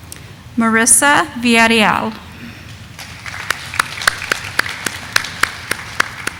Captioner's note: audience applauding